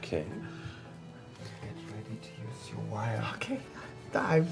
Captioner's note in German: leise